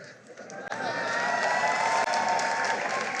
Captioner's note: cheering and applause